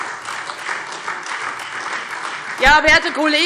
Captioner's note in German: Beifall Freie Demokraten und SPD